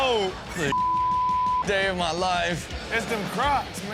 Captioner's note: beep